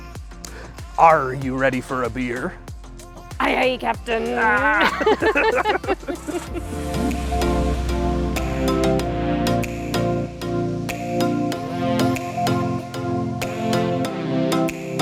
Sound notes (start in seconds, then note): 4.6 both laughing; 6.6 upbeat music